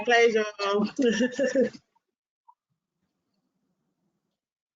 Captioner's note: laughs